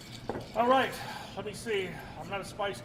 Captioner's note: sighs